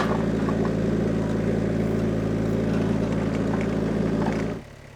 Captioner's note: engine rumbles